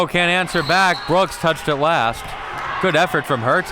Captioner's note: whistle blows